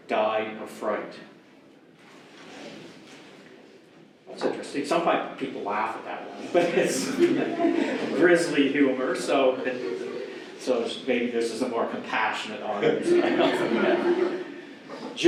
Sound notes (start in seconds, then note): 9.1 audience laughs; 12.7 audience laughs